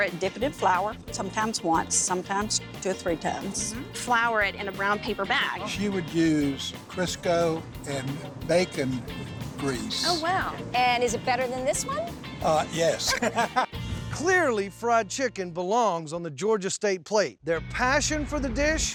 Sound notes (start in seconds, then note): 12.8 laughing